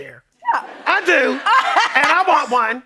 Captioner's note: laughing